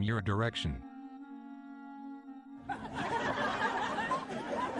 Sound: most laugh

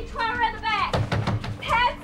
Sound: pounding on door

